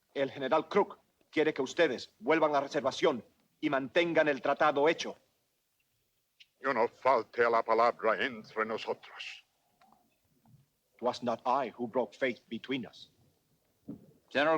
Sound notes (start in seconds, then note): 0.2 Ramirez speaks Spanish; 6.7 Victorio speaks Spanish